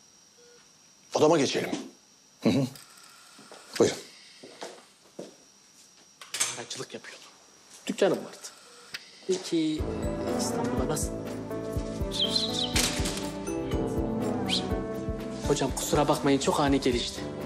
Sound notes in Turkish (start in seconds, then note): 12.2 Islık çalıyor; 14.5 Islık çalıyor